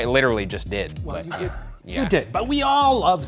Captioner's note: laughs